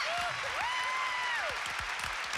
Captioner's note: cheers and applause